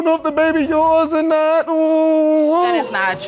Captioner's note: imitates crying